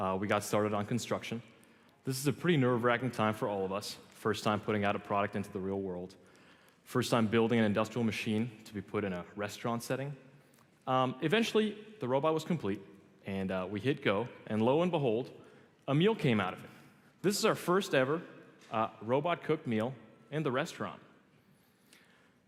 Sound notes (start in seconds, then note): none